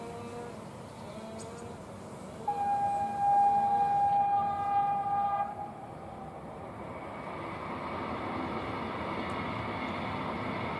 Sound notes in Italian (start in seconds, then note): 2.4 Fischio treno regionale